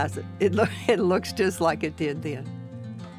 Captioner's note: chuckling